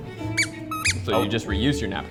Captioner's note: squeaking